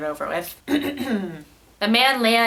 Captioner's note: clears throat